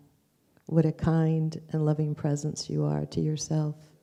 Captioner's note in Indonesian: none